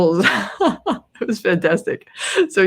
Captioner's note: laughs